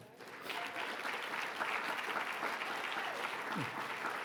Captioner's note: audience clapping